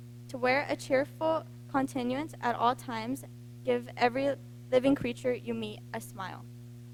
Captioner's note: none